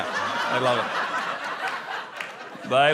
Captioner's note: laughter